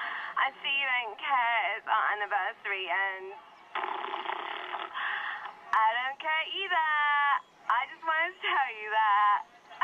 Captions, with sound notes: I see you don't care it's our anniversary and... [blowing a raspberry] I don't care either! I just wanted to tell you that!